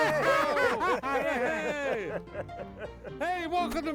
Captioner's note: laughs